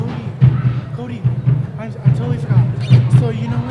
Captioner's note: chattering